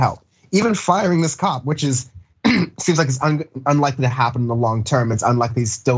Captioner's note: cough